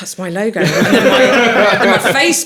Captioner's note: laughing